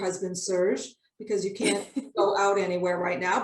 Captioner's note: laughs